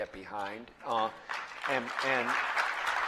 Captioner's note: applause